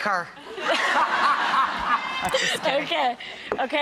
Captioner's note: laughing